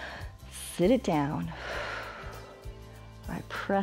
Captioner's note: exhales; inhales